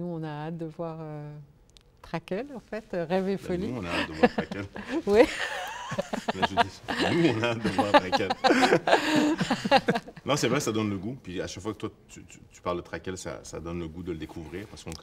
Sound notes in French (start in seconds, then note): 6.8 rires; 9.7 rires